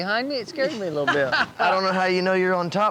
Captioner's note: laughing